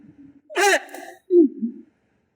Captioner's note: gags